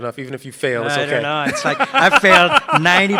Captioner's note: participant laughs